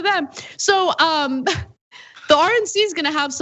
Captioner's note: laugh